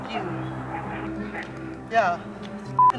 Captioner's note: beep